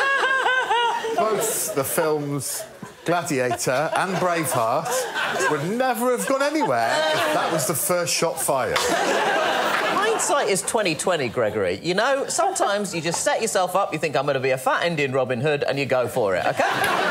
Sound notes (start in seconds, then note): 8.9 laughter